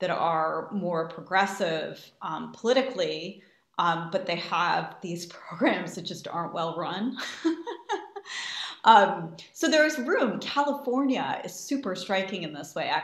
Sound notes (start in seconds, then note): 7.3 laughs